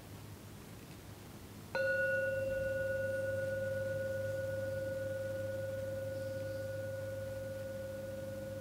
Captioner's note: ringing